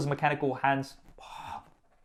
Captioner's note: exasperated sigh